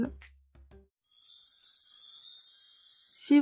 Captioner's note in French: 🎶 Son Féérique 🧚‍♀️🎶